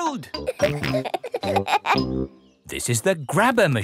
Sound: peppa and george laughing

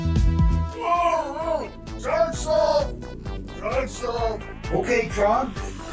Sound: grumbling

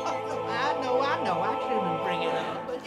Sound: laughs

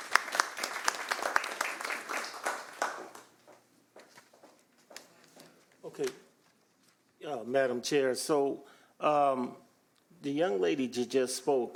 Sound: applause

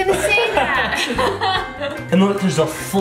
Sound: laughter

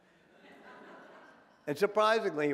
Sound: audience laughing

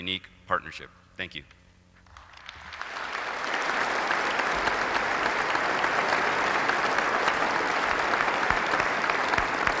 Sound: applause

